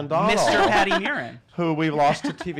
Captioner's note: laughing